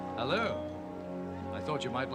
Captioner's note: glasses clinking